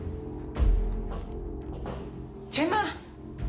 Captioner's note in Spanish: Toques en la puerta